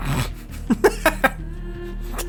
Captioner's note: laughing